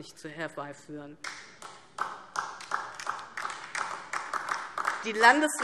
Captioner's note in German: Beifall